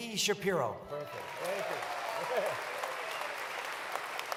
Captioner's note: applause